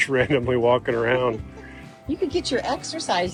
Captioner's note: laughing